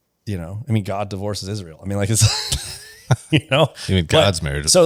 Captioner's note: laughs